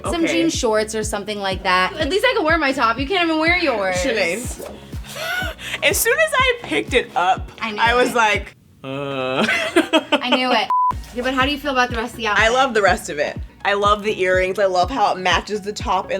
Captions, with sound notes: some jean shorts. - Cute, okay. - Or something like that. At least I can wear my top, you can't even wear yours. - Sinead. As soon as I picked it up, I was like, uh... (laughs) - I knew it. Yeah but how do you feel about the rest of the outfit? - I love the rest of it. I love the earrings, I love how it matches the top